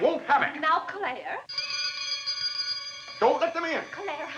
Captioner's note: doorbell rings